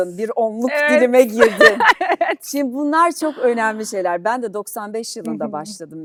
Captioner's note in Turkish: kahkaha